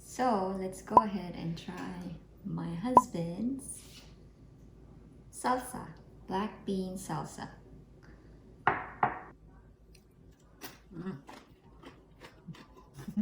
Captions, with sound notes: So let's go ahead and try my husband's salsa. Black Bean Salsa [Bowl thud]